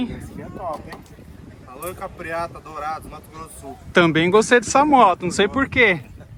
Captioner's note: laughs